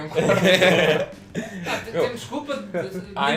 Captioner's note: laughs